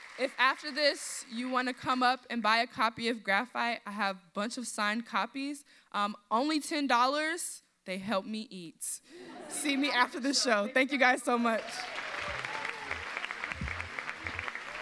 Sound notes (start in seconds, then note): 9.2 audience laughs; 11.5 audience applauds